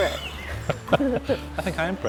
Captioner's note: laughs